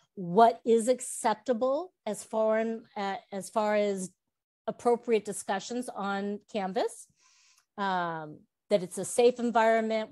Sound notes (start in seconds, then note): none